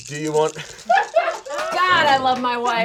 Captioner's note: all laughing